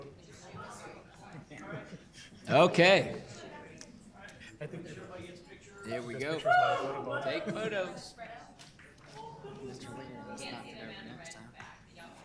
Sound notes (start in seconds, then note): 7.2 group chatter; 9.6 group chatter